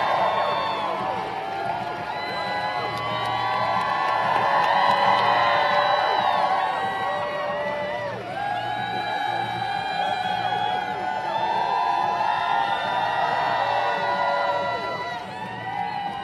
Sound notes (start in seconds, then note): 4.5 applause